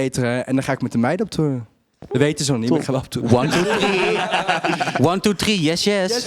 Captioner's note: all laugh